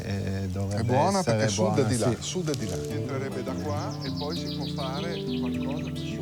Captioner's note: speaks in foreign language; gentle music